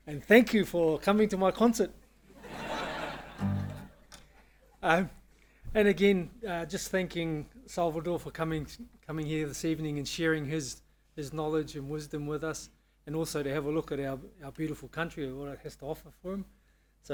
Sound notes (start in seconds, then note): 2.4 audience laughing